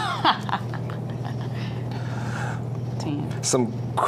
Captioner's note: laughing